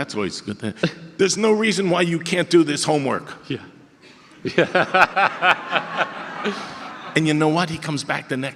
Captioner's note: audience laughter